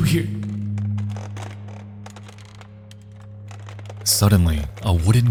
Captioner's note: wood creaking